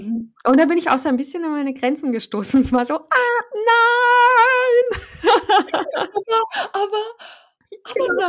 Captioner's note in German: lachen